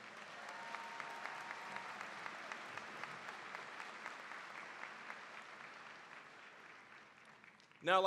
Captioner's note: applause, cheering